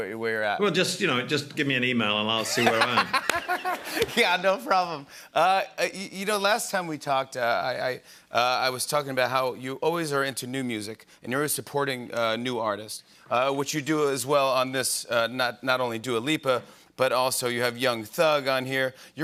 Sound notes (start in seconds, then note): 2.4 laughter